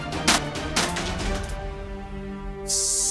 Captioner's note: clattering